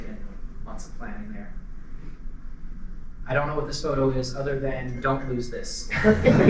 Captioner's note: laughter